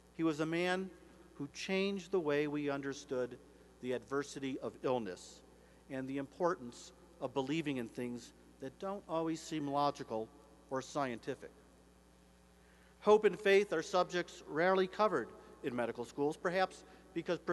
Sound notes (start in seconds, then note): none